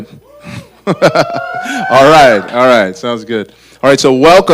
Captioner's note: audience laughter; cheering